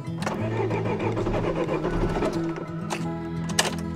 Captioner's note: engine fails to start